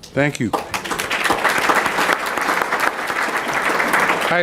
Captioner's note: applause